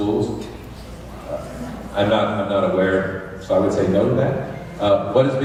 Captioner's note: crowd noise